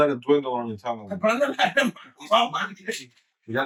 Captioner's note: speaking In Foreign Language